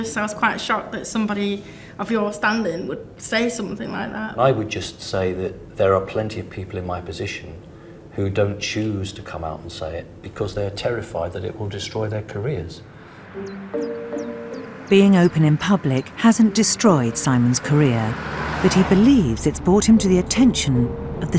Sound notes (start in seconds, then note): 15.0 voiceover